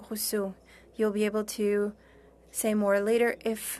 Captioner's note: speaking French